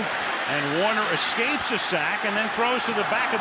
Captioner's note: cheering